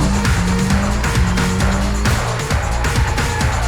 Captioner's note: engine revs